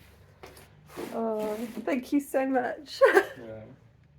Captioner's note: laughing